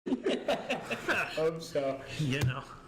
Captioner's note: laughs